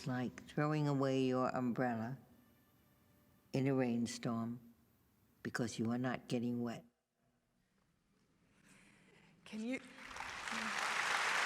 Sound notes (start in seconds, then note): 7.3 applause